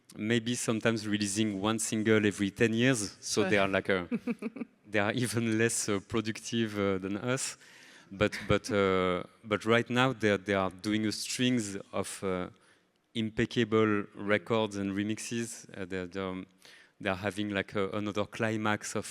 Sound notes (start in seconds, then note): 4.1 laughs